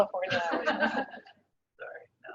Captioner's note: laughing